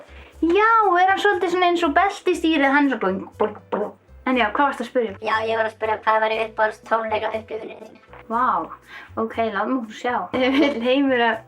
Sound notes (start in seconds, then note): 3.3 boingboing